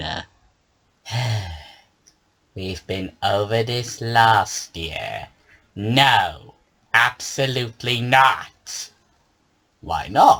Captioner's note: sighs